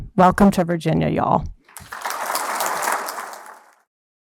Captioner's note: applause